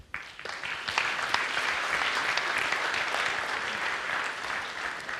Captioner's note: audience applauds